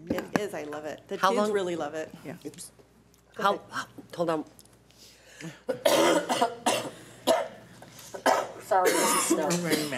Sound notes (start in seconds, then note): 5.6 coughing